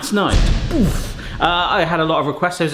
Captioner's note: metal crashes